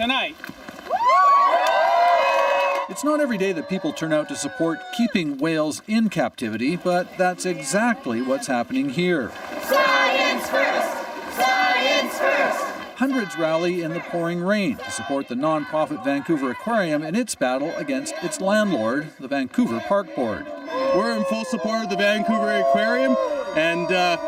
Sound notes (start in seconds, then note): 5.4 cheers and Applause